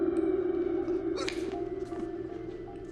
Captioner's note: groaning